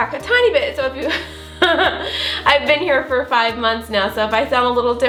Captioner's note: chuckles